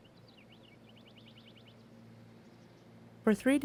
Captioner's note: birds chirping